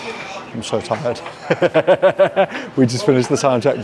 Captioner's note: laughs